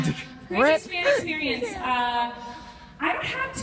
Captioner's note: none